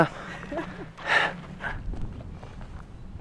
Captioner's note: laughter